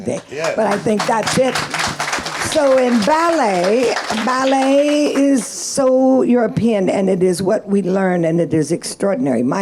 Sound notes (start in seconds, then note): 3.3 audience clapping